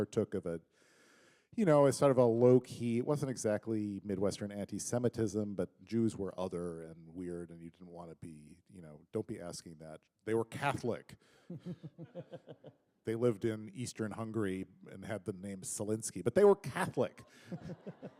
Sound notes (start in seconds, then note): 11.2 chuckle; 17.4 laughter